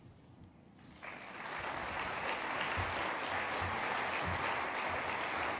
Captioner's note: applause